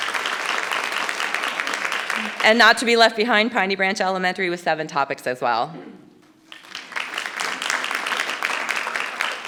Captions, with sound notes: And not to be left behind, Piney Branch Elementary with seven topics as well. (audience applauding)